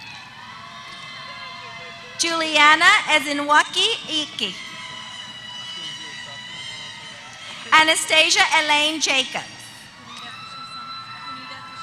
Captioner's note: applause